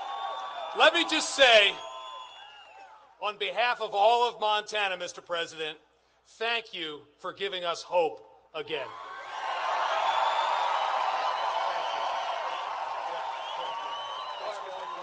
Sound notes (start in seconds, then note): 2.9 applause; 12.6 applause